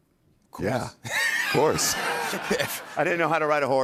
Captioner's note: laughter